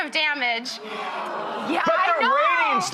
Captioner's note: audience oohs